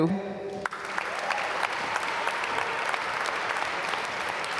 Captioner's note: applause